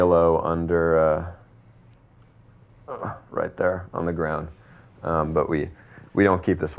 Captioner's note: groans